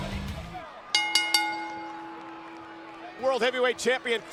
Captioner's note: bell ringing